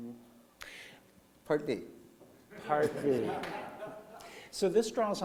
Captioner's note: laughter